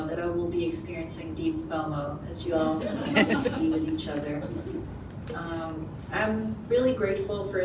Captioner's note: laughter